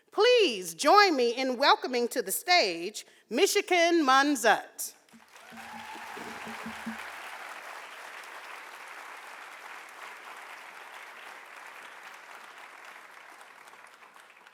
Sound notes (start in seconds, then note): 5.2 audience cheering and applauding